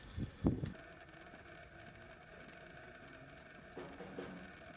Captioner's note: machine revving